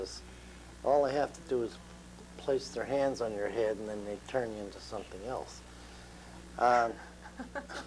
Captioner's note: laughter